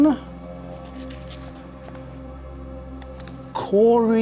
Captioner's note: paper rustling